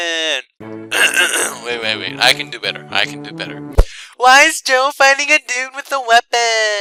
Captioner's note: clears throat